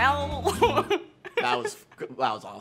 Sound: laughing

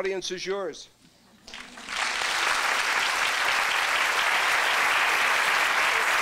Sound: applause

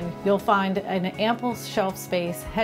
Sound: none

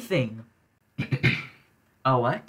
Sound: clears throat

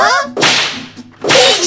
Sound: slams

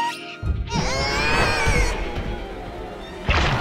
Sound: bird screeching; yelling

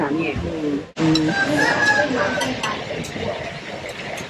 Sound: chicken cries

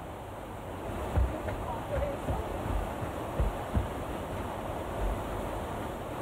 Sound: runners pass

